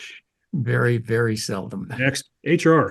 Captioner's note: laugh